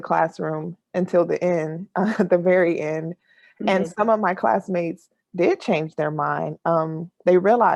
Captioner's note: laughs